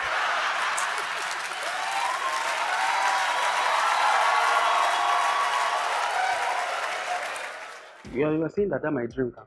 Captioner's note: audience applause